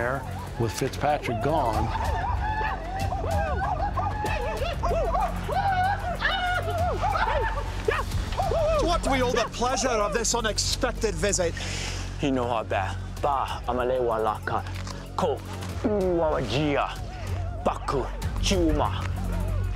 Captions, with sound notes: AND THE CROW WARRIORS COME IN THERE WITH FITZPATRICK GONE. [WAR SOUNDS] [WITH SCOTTISH ACCENT] TO WHAT DO WE OWE THE PLEASURE OF THIS UNEXPECTED VISIT? [SPEAKING CROW LANGUAGE]